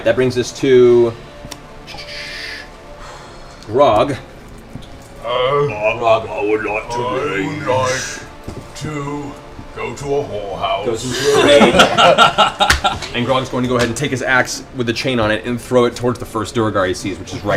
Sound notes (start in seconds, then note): 4.5 Grog voice